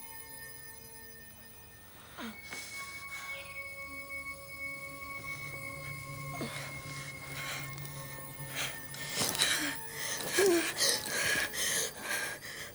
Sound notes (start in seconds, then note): 2.5 Jodie groaning; 10.0 Jodie panting